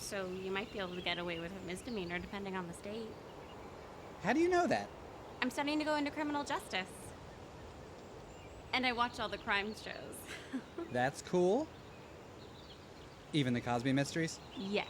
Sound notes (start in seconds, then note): 10.1 laughs